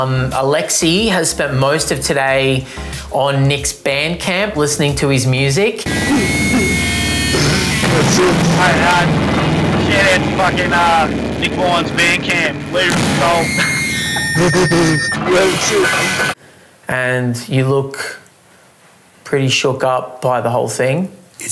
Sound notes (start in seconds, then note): 5.8 amp feedback; 14.4 amp feedback